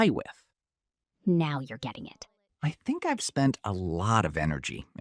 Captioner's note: quietly